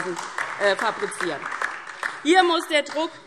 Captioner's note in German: Beifall DIE LINKE